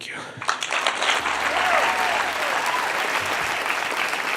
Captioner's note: crowd applause